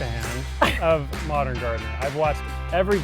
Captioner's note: chuckling